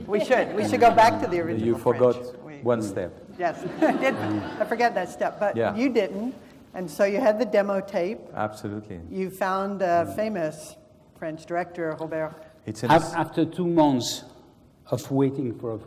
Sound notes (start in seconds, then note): 3.4 laugh